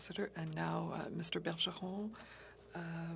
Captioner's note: speaking French